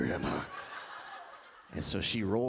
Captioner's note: audience laughs